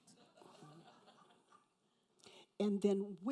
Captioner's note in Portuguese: risos da plateia